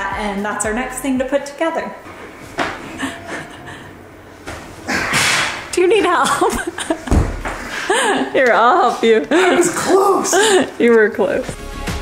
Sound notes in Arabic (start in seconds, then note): 2.9 أمي تضحك بهدوء; 6.2 أمي تضحك